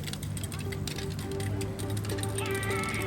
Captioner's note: scooter cycling; techno music